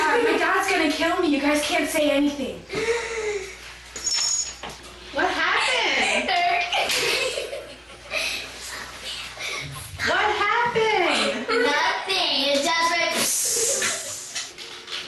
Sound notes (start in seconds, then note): 3.2 gasps; 5.8 laughing